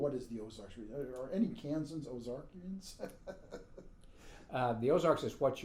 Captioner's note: laughing